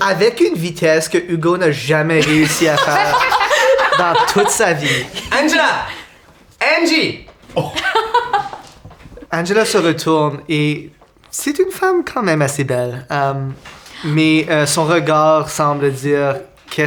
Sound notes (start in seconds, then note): 2.2 Roxanne and Zara laugh; 7.5 laughter